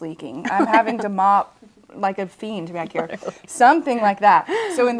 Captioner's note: laughs